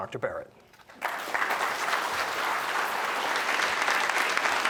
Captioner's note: applause